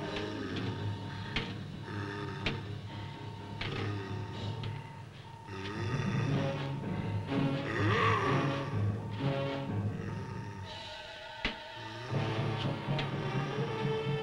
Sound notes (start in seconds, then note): 6.7 thrilling music; 7.4 Popoca growls